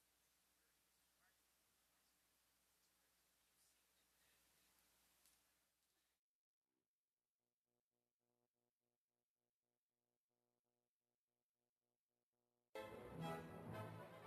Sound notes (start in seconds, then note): 3.7 speaking French